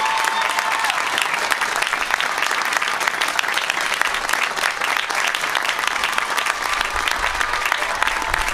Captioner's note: applause